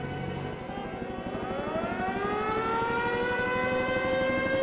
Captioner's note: sirens